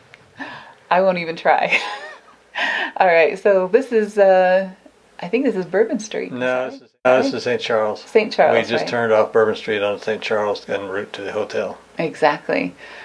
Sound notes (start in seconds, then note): 1.7 laughs